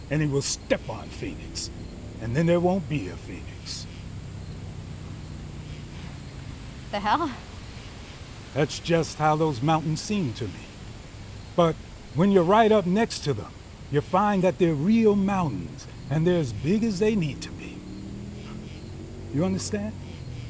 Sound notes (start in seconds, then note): 5.8 scoffs